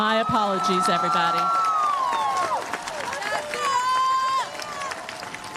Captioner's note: cheers, applause